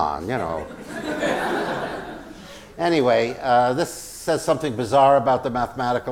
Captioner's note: laugh